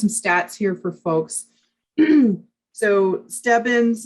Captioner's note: clears throat